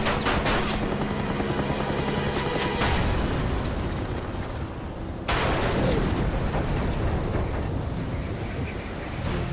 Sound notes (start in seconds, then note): 5.3 booming, clanging